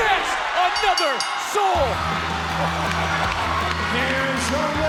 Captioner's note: bell ringing and audience cheering